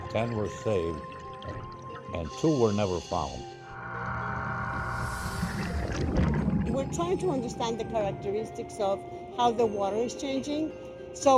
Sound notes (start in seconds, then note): 3.6 underwater bubbling noise; 3.8 engine softly whirring